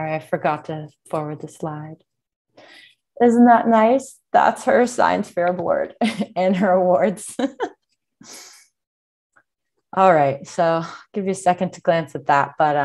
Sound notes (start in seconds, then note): 7.4 chuckles